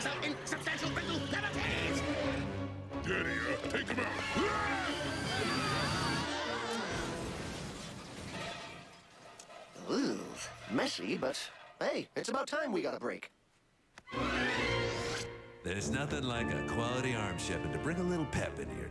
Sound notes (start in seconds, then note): 6.2 screaming; 6.8 crash